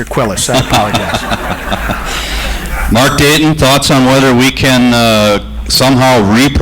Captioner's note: audience laughter